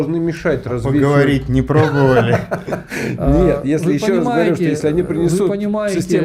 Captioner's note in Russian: смех